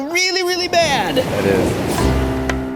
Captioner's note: waves crashing